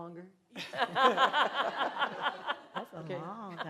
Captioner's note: laughter